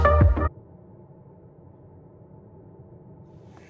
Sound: radio silence

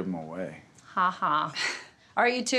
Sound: Angie chuckles

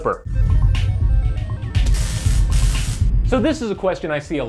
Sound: digital, electronic tones and buzzing

